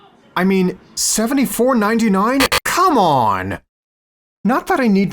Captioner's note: buzzer